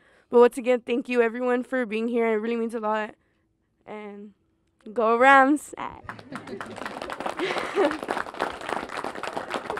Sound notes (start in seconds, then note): 6.0 clapping; 6.0 laughs